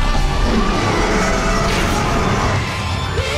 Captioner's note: roars